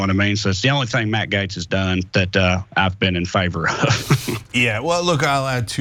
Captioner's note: laugh